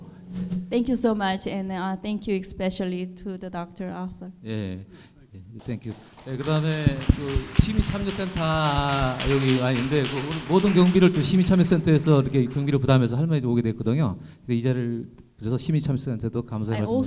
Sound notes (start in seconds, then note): 5.6 applause; 6.9 speaking in foreign language